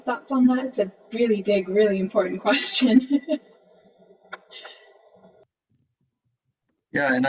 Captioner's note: chuckling